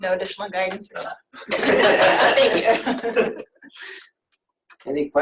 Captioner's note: laughs